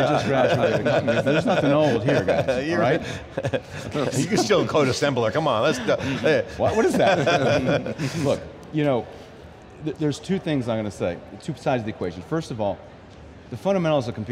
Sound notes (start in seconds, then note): 6.2 laughs